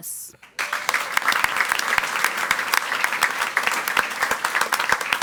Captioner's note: audience applauds